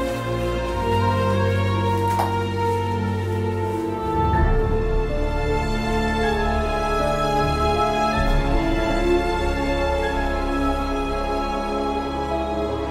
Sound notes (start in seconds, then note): none